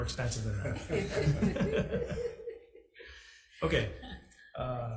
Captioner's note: several laugh